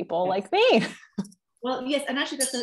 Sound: laughter

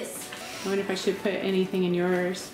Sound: exhaling

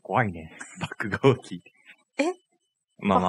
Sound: laughs

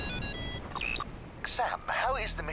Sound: phone ringing

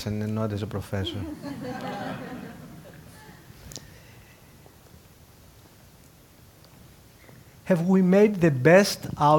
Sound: laugh

